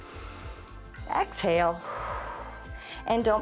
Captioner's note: inhales; exhales